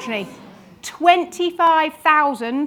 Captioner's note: audience sighs